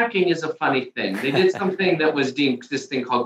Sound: chuckles

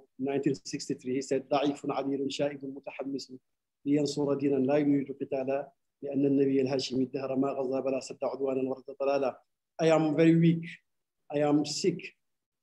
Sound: speaking arabic

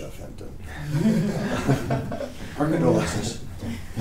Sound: group laughing

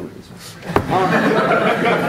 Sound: laughter

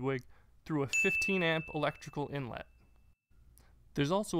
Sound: bell rings

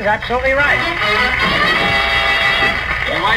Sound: audience applauds

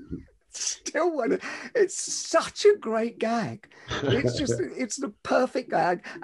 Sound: laughs

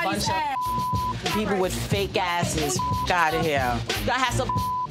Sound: beep

